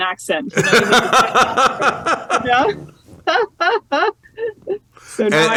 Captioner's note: laughter